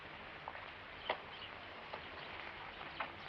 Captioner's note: none